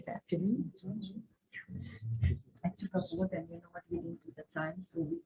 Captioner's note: speaking faintly